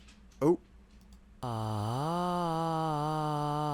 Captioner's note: weird voicebox noises